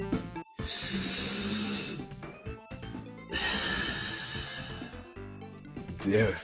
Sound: inhales, exhales

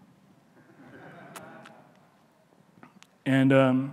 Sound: audience laughing

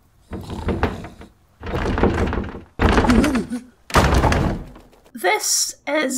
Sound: crackling fire; snoring noises; increasingly Aggressive Knocking

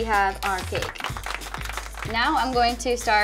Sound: applause

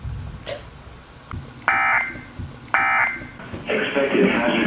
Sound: beeps

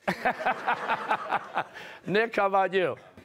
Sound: laughter

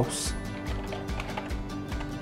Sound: typing

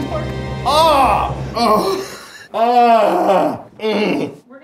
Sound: groaning

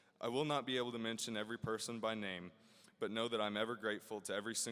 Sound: none

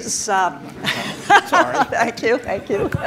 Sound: laughs

